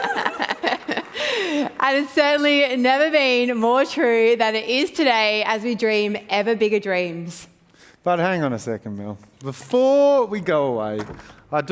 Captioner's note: laughs